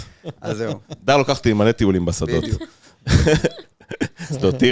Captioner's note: laughing